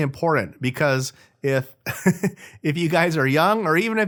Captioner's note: laughs